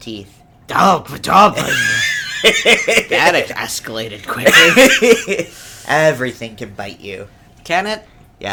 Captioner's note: laughs